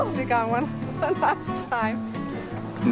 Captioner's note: chuckling